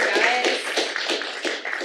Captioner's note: applause